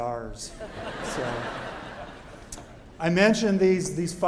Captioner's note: laughter